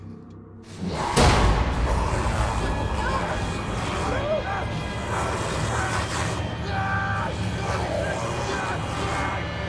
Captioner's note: growling; screaming